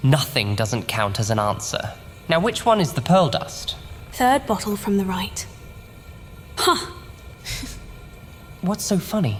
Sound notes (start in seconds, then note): 7.5 she giggles